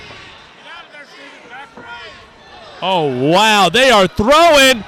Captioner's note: crowd noise